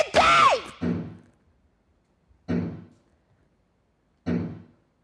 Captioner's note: banging